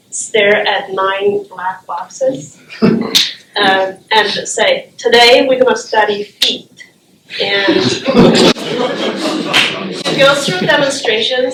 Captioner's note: laughter